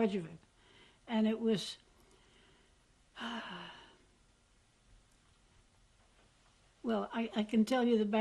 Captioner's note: pauses for 3 seconds